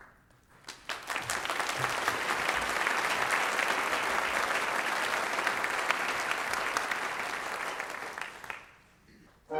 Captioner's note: applause